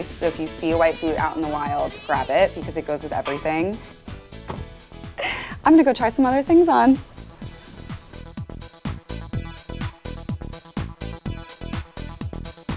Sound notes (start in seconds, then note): 5.2 laughing